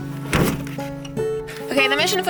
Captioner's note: door slamming